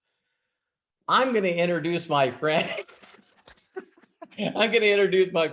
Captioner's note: laughs